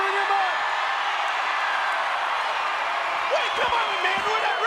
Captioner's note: crowd cheering